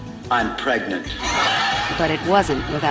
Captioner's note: laughs